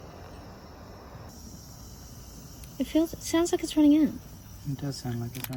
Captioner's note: flame hiss changes pitch